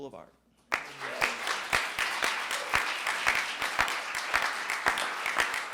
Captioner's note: audience claps